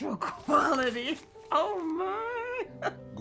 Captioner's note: laughing